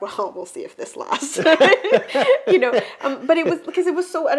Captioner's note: both laugh